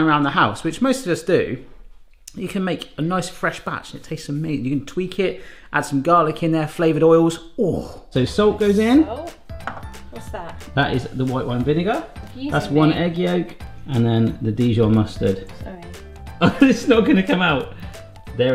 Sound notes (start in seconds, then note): 7.6 groans